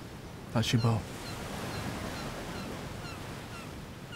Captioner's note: birds cawing